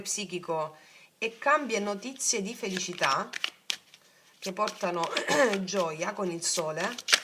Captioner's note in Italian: schiarire la voce